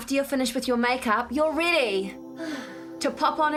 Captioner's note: sighs